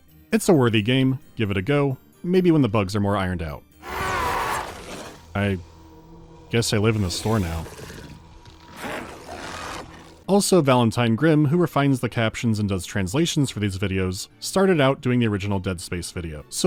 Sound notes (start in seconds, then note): 3.8 belligerent necromorph scream; 8.6 stifled necromorph cussing